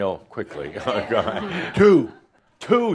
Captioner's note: laughter